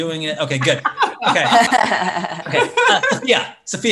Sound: laugh

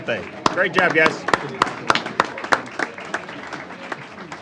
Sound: applause

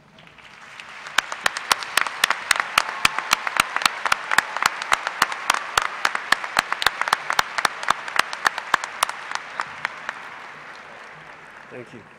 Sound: applause

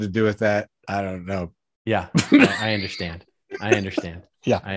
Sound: laughs

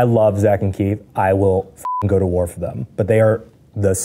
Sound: beeps

